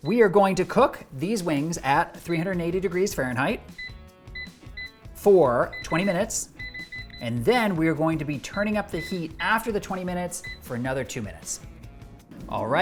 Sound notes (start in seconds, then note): 4.3 soft music; 5.6 fryer buttons beeping